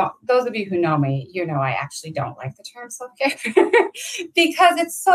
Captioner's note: laughs